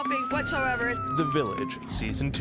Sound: sirens

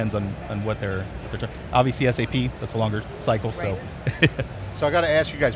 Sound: chuckles

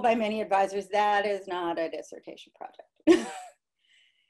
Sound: laughter

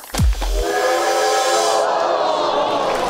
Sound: low claps; train whistle; crowd cheers

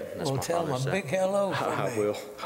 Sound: laughter

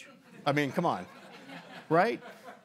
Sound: people laughing

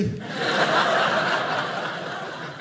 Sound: audience laughing

